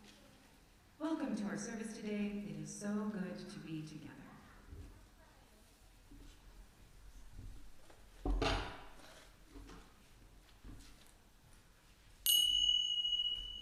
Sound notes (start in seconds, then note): 5.1 silence, thunking sound; 12.2 chime rings